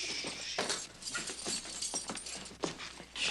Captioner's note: keys jangling